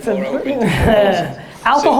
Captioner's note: laughter